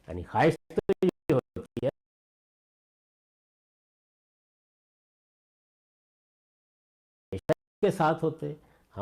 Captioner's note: Glitch